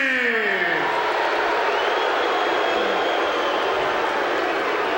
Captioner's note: crowd clamoring